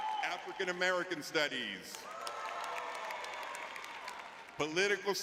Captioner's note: audience cheering; audience cheering